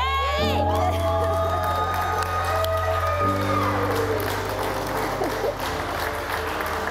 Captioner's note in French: applaudissements